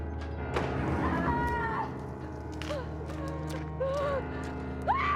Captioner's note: screaming